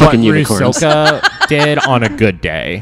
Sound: sighs, laughs

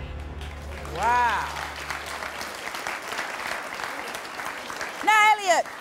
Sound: audience clapping

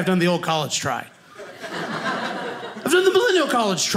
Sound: audience laughing

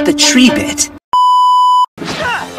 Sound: static beep sound

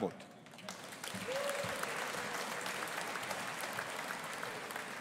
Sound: audience applauding

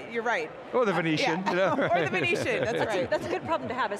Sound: laughs

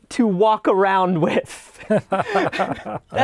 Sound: laughter

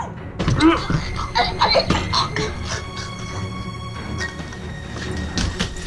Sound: choking intensifies

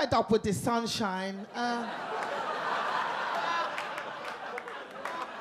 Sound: audience laugh

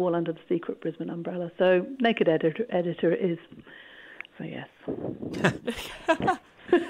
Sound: laughter

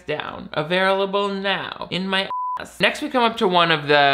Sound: beep

